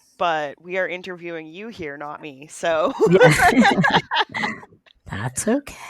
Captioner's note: laughs